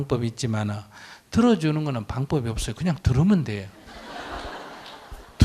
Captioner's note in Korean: 청중 웃음